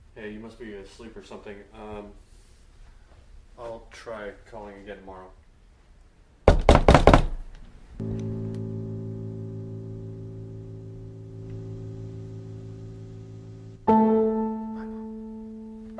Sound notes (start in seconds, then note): 6.5 knocking; 8.0 tense music